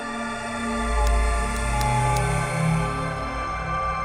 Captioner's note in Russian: звуки зажигалки